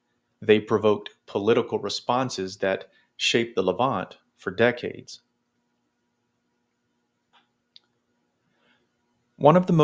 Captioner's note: long pause